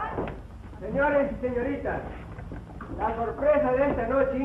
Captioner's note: Spanish spoken audio